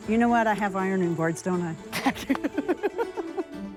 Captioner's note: laughs